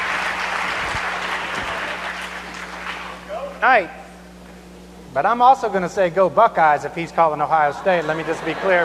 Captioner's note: cheers and applause